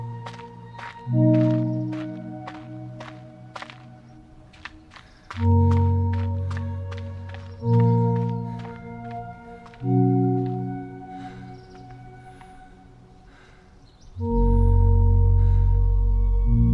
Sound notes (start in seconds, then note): 5.2 running footsteps; 9.8 panting